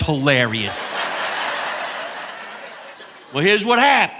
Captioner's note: audience laughing